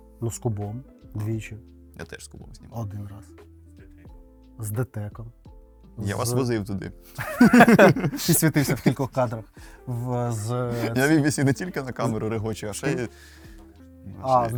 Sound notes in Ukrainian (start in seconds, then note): 7.1 сміх